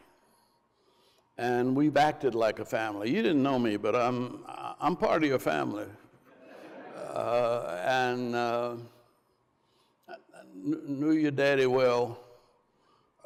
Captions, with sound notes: And we've acted like a family. You didn't know me, but I'm part of your family. (crowd laughs) And knew your daddy well, not well enough though.